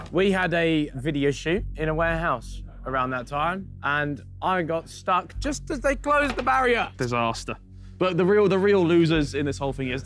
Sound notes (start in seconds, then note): none